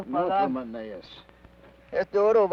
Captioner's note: Ben speaks foreign language